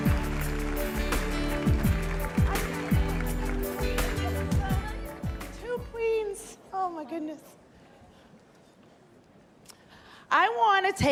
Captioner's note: cheers and applause